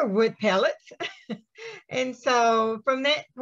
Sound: chuckles

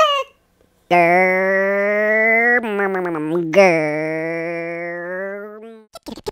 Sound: funny motor sound

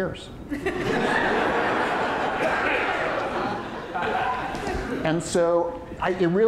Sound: audience laughing

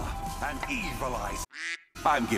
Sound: quack

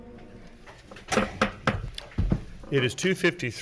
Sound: gavel bangs

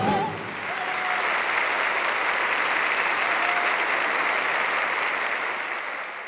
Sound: audience applauding and cheering

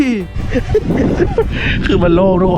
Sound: laughs

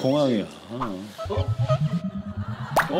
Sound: scratching

